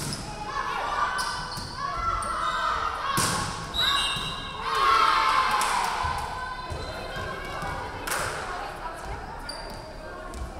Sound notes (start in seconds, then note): 3.7 referee whistling; 4.6 crowd cheering